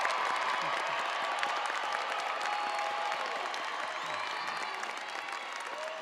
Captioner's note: audience cheering and applauding